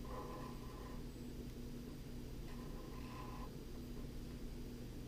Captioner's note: pen writing on paper